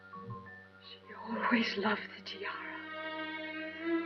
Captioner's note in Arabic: تعليق صوتي